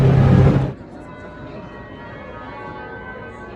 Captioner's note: church bells ringing and chiming